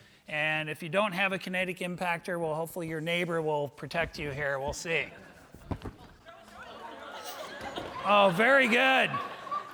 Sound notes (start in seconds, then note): 6.6 audience laughing